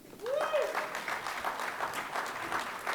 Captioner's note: cheering and Applause